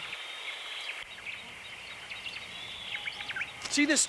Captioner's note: birds chirping